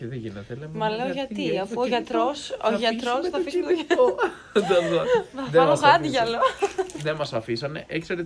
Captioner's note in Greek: γέλια